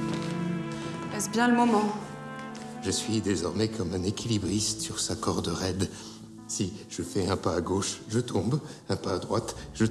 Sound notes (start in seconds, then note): 0.0 somber music; 1.4 people speaking in French